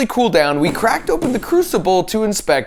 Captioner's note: hammer thudding